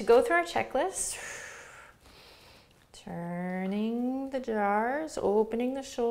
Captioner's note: exhales